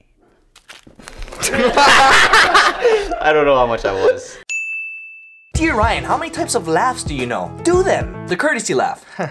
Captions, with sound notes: [All laugh] I don't know how much that was. haha